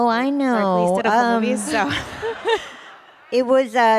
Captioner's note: laughter